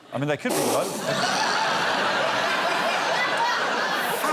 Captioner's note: laughs